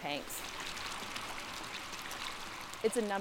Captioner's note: water running into tank